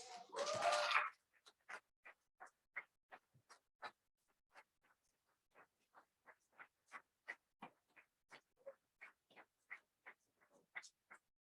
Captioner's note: applause